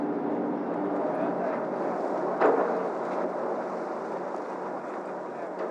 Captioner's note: noise of the ship